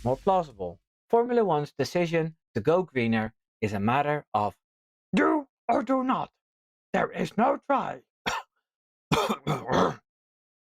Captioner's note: cough cough